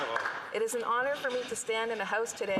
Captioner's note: some Applause